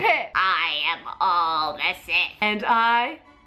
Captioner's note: strangled voice